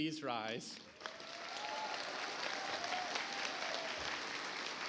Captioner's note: audience applauds